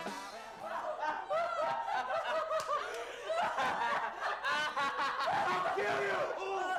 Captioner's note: laughter